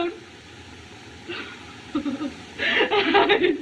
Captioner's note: crying